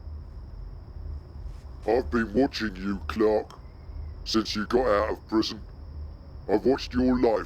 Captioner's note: distorted voice